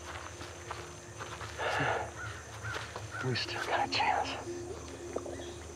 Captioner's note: chuckles